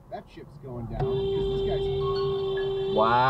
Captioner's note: beeeeeep